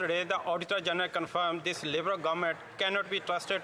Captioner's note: some Applause